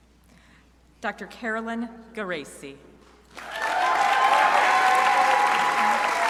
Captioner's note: crowd applauding